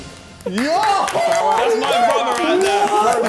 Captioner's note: Vik clapping; contestants exclaiming